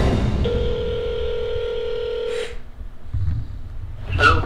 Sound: phone ringing

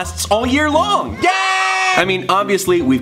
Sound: children cheering

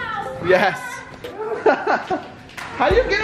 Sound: laughs

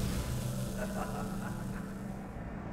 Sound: laughing

